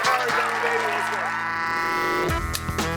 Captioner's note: upbeat instrumental music; audience member cheers; clapperboard snaps; upbeat instrumental music